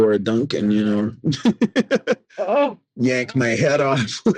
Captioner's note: man laughing